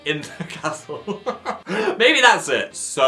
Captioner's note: laughing